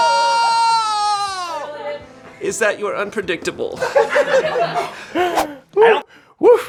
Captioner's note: screaming; laughter